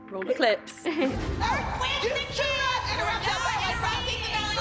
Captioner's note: chuckles; indistinct shouting